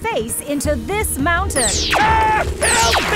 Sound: laser zapping

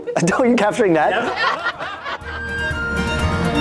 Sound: cast laughing; lighthearted folk music

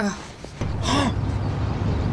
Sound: soft gasp

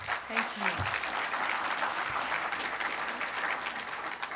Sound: applause from audience

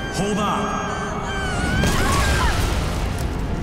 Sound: screaming, thudding

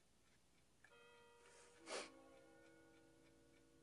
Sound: clock chiming

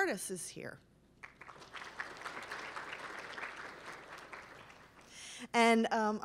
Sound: applause

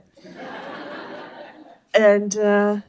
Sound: laughter

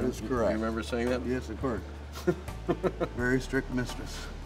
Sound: laughs

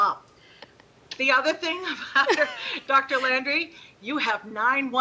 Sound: laughing; chuckling

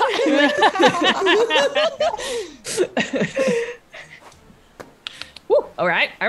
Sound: laugh

